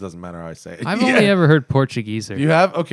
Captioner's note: laughter